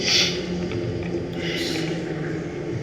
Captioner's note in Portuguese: none